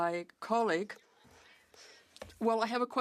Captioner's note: speaking French